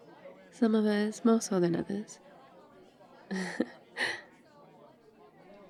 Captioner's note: laughs